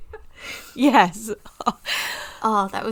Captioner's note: continued laughing